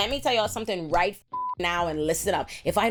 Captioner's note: beep